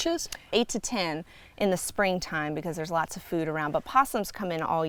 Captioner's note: none